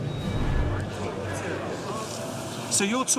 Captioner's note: indistinct chatter